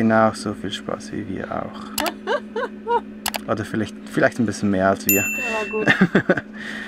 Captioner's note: laughter